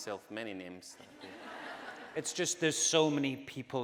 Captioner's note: audience laughing